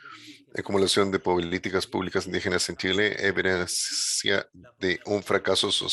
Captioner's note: speaking in a foreign language